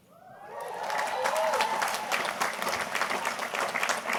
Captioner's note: audience applauding